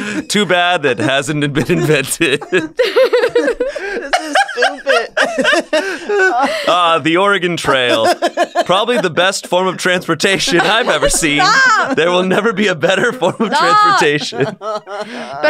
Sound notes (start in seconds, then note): 4.9 laughter